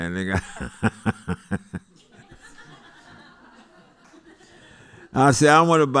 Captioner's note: laughter